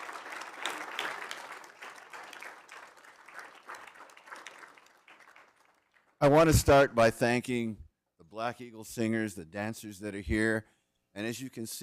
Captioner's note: applause